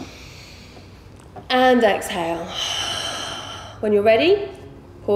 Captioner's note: heavy breathing